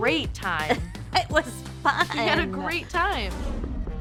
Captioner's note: laughs